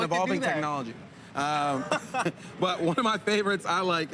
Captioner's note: laughs